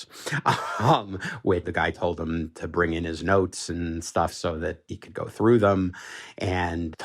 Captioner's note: laughs